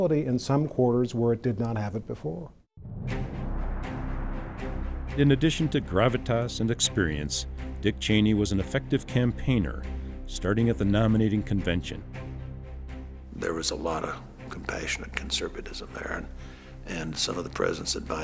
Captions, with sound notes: in some quarters where it did not have it before. (dramatic music) - [Voiceover] In addition to gravitas and experience, Dick Cheney was an effective campaigner, starting at the nominating convention. - There was a lot of compassionate conservatism there and some of the president's advisors